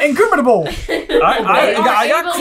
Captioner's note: laughter